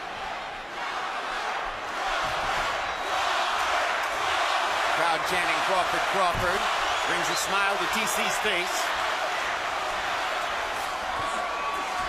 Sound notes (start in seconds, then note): 0.0 Crowd chanting "Crawford"